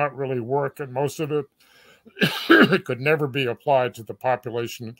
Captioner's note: cough